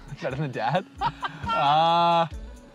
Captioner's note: laughing